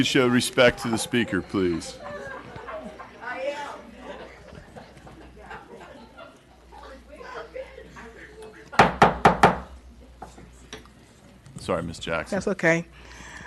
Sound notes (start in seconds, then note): 8.8 gavel